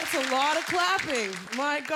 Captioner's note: cheering